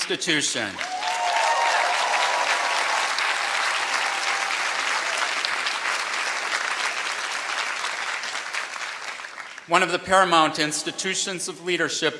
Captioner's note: applause